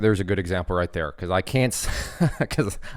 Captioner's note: laughs